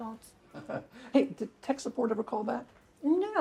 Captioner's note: laughs